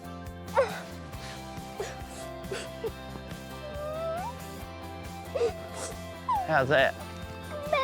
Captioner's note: sniffles